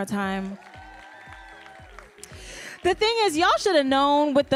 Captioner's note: audience cheering and applauding